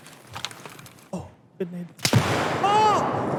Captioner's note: faintly speaking; gun snaps